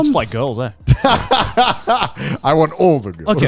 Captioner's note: laughs